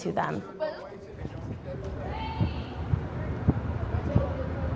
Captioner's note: students chattering; engine whirring